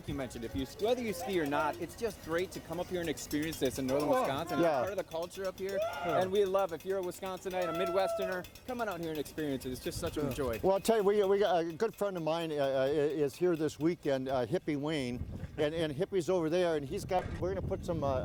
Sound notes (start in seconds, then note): 5.7 person whoops